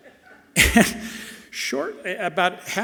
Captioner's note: chuckles softly